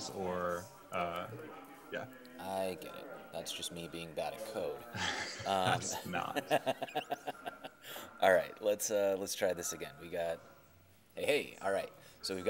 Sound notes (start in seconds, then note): 4.9 chuckling; 6.8 laughing